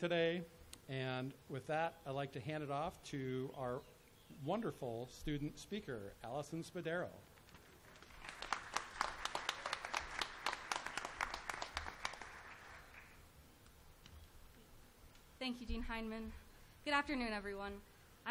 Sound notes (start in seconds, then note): 7.6 applause